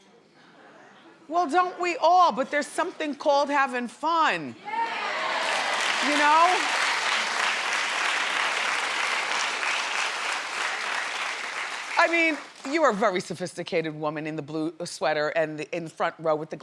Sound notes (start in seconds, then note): 4.8 crowd claps